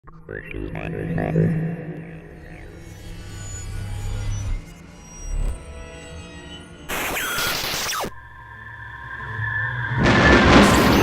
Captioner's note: sound Effects